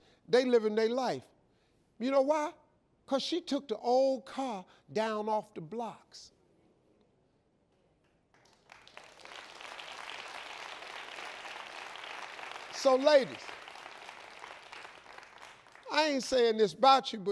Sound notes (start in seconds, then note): 8.3 audience applauds